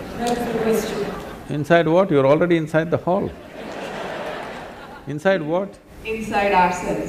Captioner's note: laughter; 笑聲; laughter; 笑聲